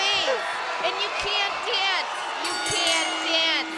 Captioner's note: bell rings